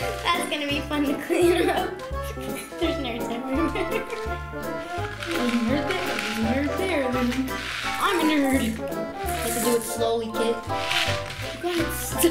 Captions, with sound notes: That's gonna be fun to clean up. There's Nerds everywhere. (laughs) - There's a nerd there, there's a nerd there, I'm a nerd! You have to do it slowly, kid.